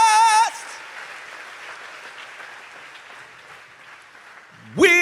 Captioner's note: audience applauds